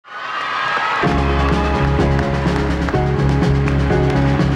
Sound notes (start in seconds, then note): 0.1 audience applauding; 1.0 upbeat music